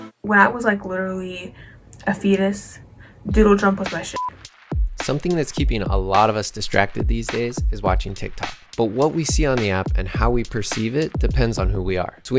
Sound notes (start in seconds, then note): 4.1 beep